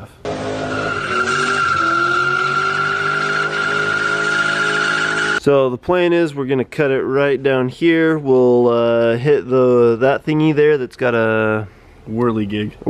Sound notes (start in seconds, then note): 0.2 engine revving; 0.2 tires screeching